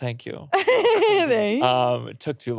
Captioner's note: laughing